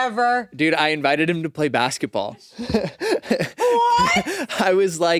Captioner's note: laughs